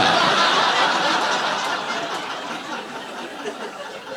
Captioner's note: audience laughing